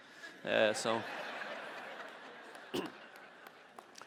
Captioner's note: audience laughing